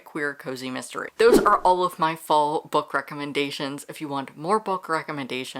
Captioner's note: whoosh